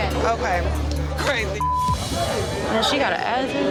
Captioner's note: beep